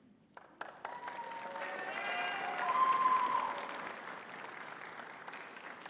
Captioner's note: audience cheering and clapping